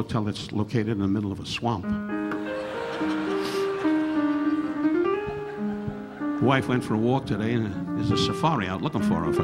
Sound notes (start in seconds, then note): 2.2 relaxing piano music; 2.3 audience laughing